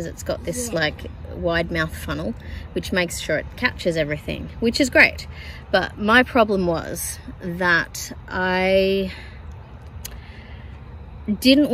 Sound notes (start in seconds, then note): none